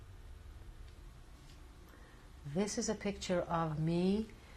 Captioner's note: none